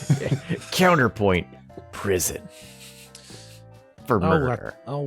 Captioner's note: laughter